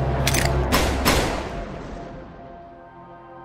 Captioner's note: gun draw; gun shot. gun shot